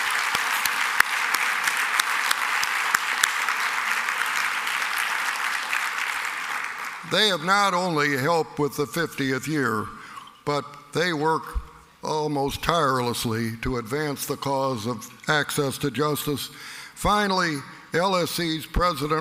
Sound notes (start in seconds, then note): 6.5 applause